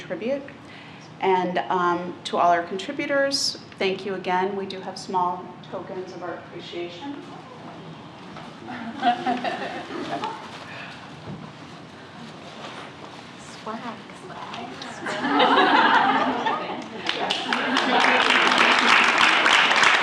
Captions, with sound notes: and to our contributors, thank you, again, we do have small tokens of our appreciation. (laughter) (chatter) (laughter) (applause)